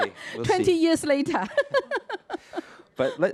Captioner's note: chuckles